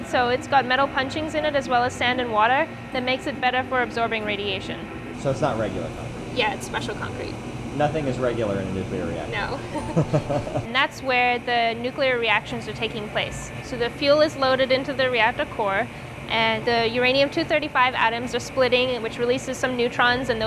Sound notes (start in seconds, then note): 9.6 light laughter